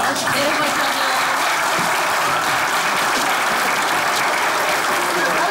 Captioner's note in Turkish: Alkış sesleri